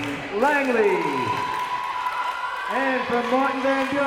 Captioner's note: crowd members cheering